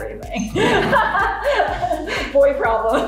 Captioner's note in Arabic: يضحك